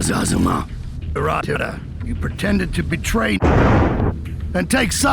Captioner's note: convenient thunder